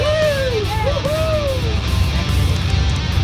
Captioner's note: cheering